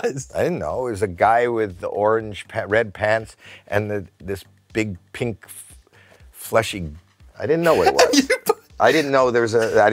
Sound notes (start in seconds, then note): 7.6 giggles